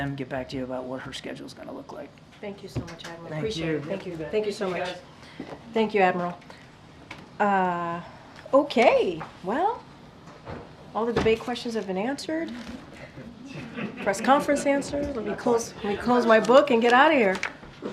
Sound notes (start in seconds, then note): 13.2 laughter